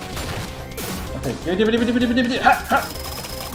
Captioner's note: blithers excitedly